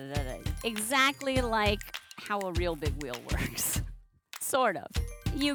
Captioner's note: laughs